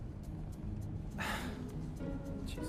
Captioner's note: Mason sighing